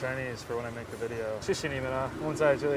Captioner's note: Mandarin